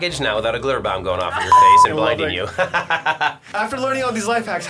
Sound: laughs

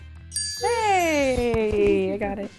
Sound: bell dings

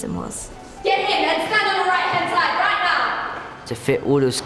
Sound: yelling

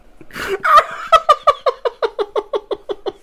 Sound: hysterical Laughter

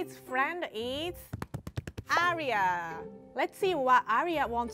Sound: hands patting

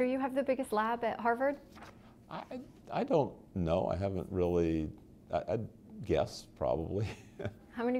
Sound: chuckle

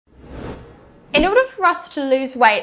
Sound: air whooshing

